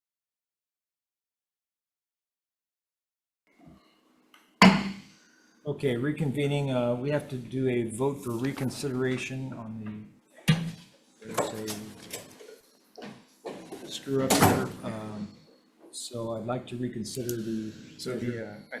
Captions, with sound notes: (Gavel pounds) - Okay. Reconvening, We have to do a vote for reconsideration on the, there's a screw up here. So I'd like to reconsider the, the,